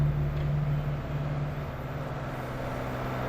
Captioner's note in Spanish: Ruido del vehículo